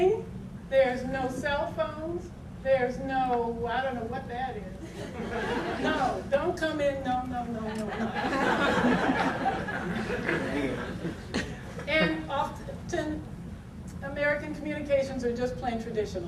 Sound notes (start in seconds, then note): 4.7 audience laughter